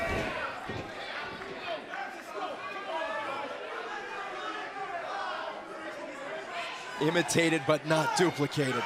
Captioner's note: crowd chatter